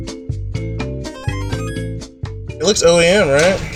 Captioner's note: game sound effect chimes; moderate music